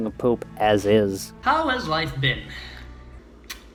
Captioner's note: sighs